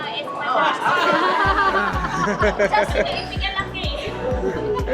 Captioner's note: loud laughter